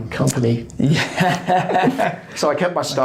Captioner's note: laughs